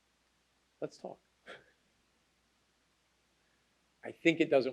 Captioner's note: laughs